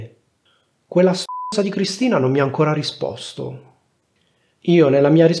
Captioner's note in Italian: beep